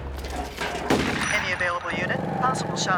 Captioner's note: shot fires